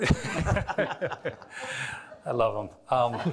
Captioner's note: all laughing